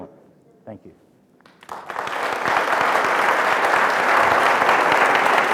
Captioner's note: applause